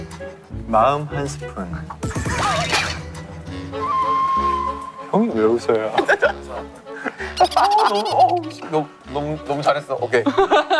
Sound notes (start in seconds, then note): 7.0 laughing